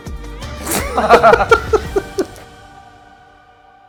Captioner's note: laughing